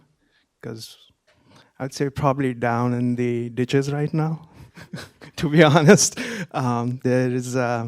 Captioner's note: laughter